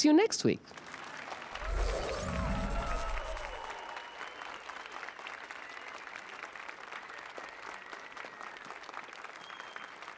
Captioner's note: applause and cheers